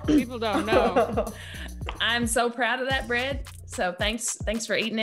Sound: laugh

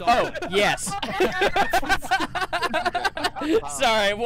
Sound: laughter

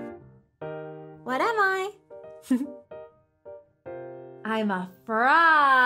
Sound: giggles

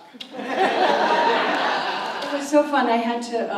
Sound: audience laughs

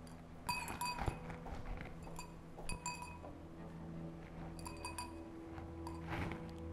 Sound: glass clinking

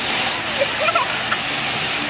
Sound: giggles

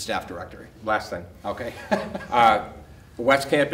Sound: laughs

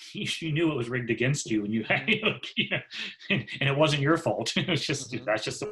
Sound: laughs

